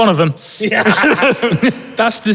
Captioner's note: both laughing